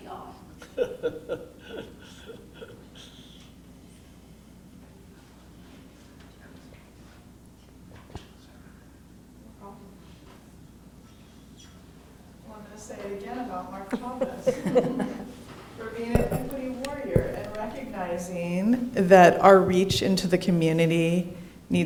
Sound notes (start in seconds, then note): 0.5 laughs; 13.7 laughing